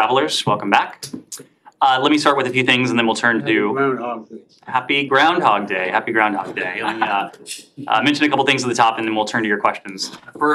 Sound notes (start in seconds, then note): 6.8 laughter